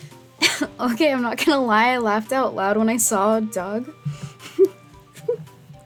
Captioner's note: giggles